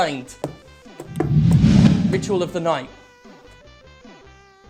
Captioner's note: whoosh